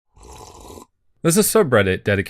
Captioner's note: slurp